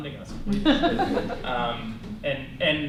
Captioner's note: laughter